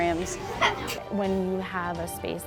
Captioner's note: child laughing